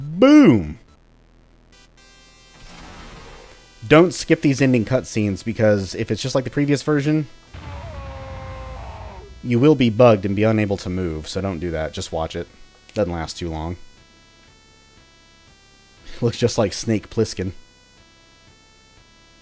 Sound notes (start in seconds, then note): 1.7 8-bit theme plays; 7.5 final boss death cry